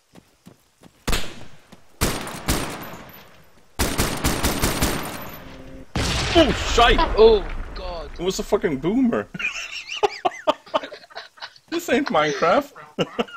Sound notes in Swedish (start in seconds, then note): 5.9 boom; 9.3 Skrattar